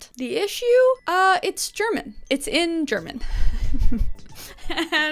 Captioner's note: chuckles